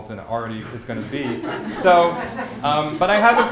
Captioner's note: laughter